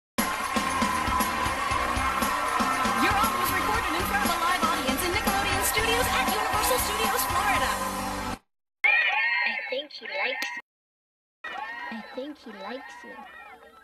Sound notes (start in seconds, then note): 8.8 audience cheering; 11.5 audience cheers